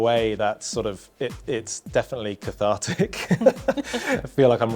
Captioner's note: laughs